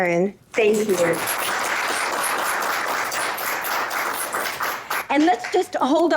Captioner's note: applause